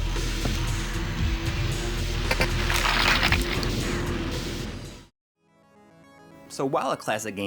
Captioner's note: Quake 2 Game Audio